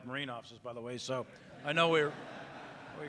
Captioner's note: audience laughing